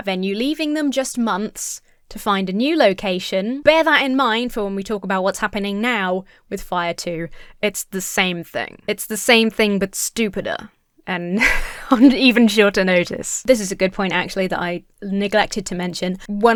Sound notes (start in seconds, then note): 11.4 chuckles